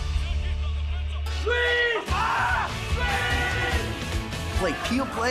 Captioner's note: cheering